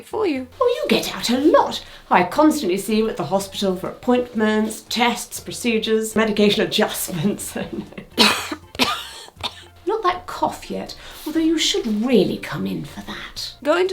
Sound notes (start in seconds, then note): 7.0 chuckles; 7.8 patient coughs